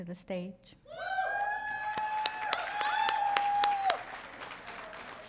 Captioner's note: audience cheering